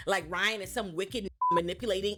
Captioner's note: beep